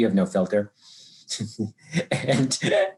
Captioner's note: laughs